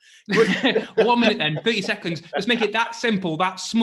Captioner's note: laughing